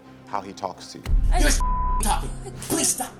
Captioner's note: beep